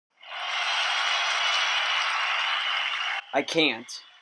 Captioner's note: crowd cheering